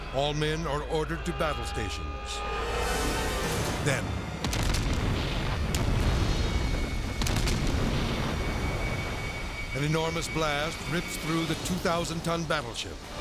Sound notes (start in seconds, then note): 0.3 siren wailing; 5.2 explosion blasting